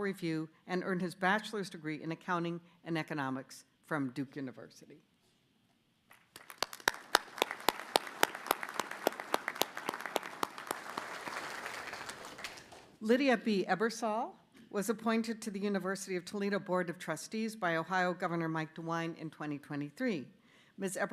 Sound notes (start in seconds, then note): 8.5 applause